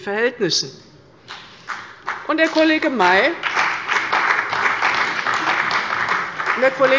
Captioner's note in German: Beifall bei der CDU und dem BÜNDNIS 90/DIE GRÜNEN